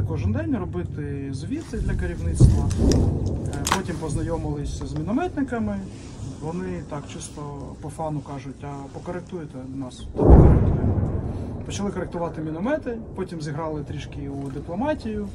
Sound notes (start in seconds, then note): 10.0 explosion